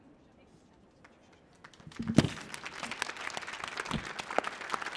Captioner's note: audience applauding